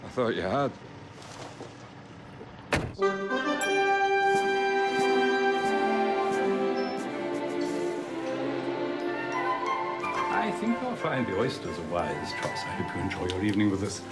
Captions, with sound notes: - I thought you had. (car door shuts) (cheerful music) - I think you'll find the oysters a wise choice. I hope you enjoy your evening with us.